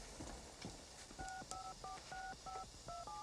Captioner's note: beeping